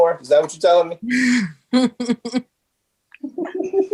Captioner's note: chuckling